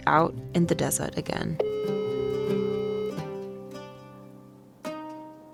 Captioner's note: phone ringing